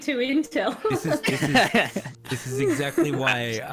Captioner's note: appreciative laugh